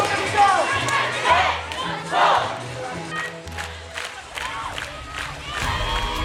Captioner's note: cheerleaders chanting